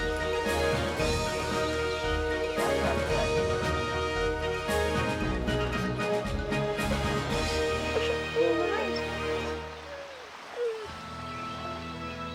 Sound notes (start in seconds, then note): 7.0 Rose crying; 11.0 gentle music